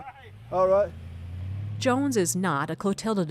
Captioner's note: laughs